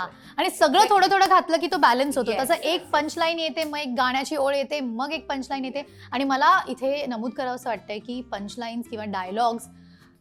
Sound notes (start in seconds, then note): none